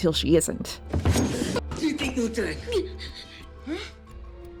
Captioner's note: Max whimpers